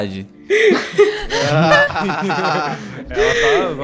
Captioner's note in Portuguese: Risos